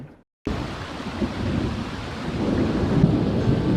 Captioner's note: thunderstorm and rain